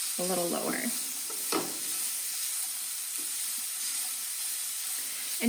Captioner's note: sizzling